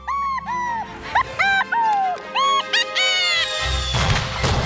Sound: laughing

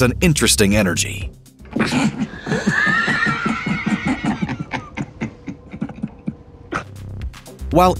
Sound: Laughing with DaFoe

